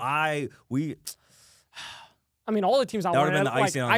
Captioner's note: sighs